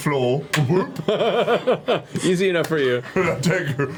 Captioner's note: laughs